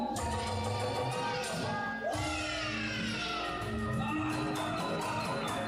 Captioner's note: people exclaiming excitedly